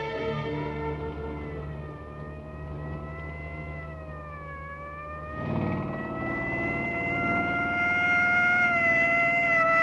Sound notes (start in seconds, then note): 2.3 siren wailing